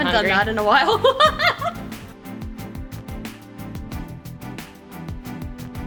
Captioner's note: laughs